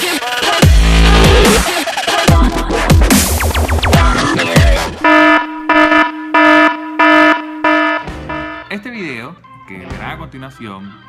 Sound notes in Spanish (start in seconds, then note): 0.0 Intro music; 4.0 Sonido de alarma